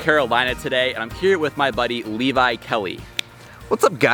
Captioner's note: snaps fingers